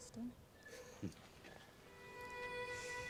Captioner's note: Austin chuckles; warm string music